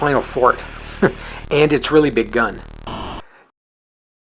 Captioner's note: chuckles